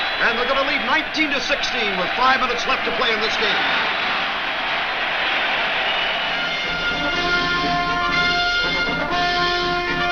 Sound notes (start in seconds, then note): 3.9 crowd cheers; 6.3 upbeat music